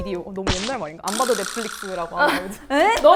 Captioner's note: burst out laughing